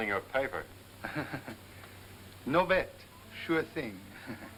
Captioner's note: laughs